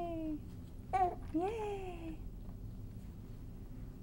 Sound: baby coos

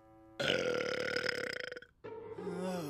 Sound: burps

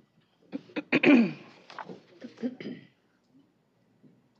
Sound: clears throat

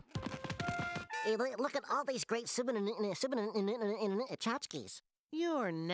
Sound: stuttering

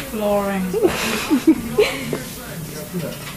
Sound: laughs

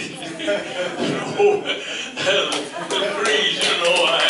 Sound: laughs

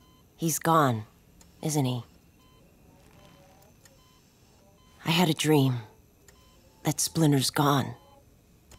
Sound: none

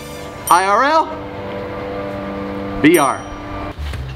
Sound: scoreboard dings

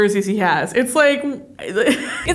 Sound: laughs

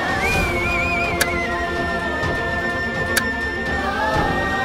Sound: switch clicks

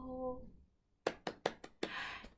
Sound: clapping

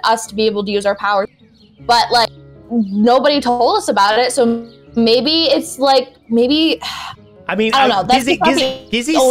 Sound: sigh

